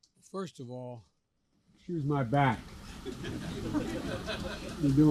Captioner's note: laughter